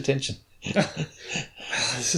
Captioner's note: laughter